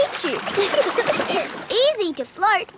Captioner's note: giggling